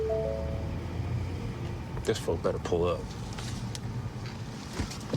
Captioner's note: chiming